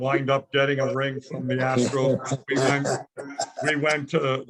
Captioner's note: laughing